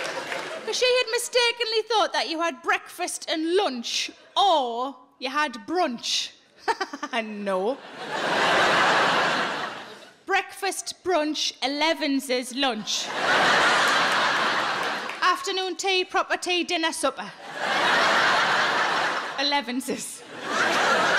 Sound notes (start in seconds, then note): 6.1 laughing; 7.7 audience laughing; 13.0 audience laughing; 17.3 audience laughing